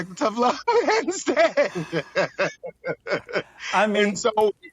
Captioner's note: laughs